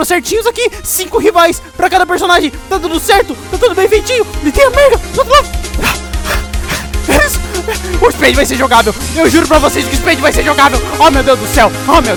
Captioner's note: huff